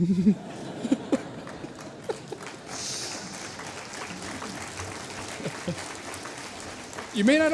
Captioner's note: laughter, applause